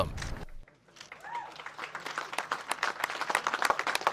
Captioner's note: clapping